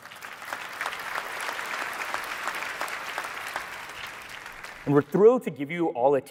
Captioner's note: applause